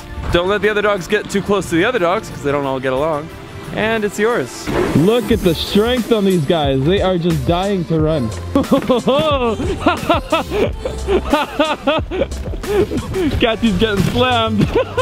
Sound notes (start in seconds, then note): 8.5 laughing